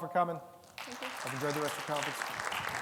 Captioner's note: audience applauds